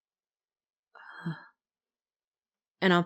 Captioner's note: shaken Exhale